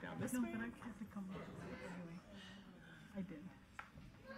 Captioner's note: speaking faintly